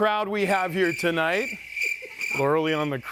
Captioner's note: crickets chirping